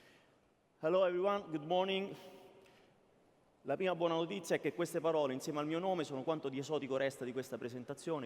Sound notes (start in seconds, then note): 3.7 speaking italian